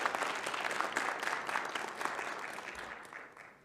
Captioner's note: audience applauding